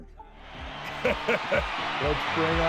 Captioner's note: laughing